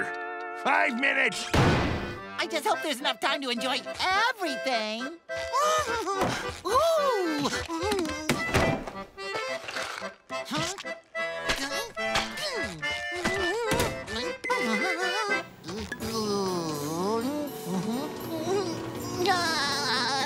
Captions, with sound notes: Five minutes! I just hope there's enough time to enjoy everything. Ooh! [beeping] [carnival music playing] [laughs]